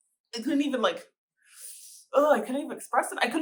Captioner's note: sucking in air